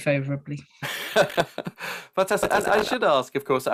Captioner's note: laughs